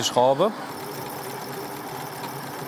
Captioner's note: dull whirring